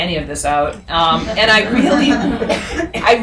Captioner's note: audience laughing